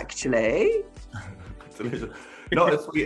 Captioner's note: chuckles